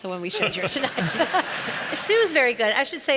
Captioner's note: audience laughs